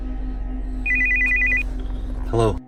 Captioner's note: phone rings